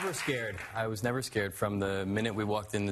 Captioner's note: applause